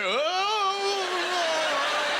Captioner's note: audience laughter